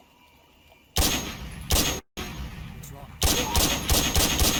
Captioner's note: gun firing